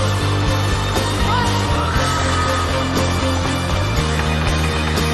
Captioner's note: crowd screaming